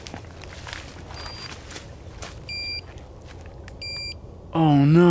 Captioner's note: rustling and walking sounds; beeping noise; beeps continue